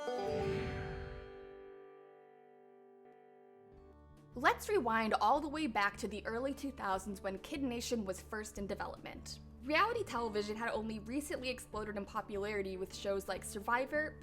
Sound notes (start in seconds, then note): none